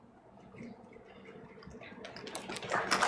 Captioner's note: applause